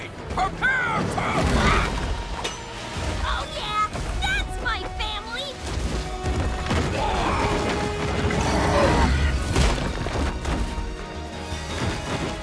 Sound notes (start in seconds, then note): 6.5 growling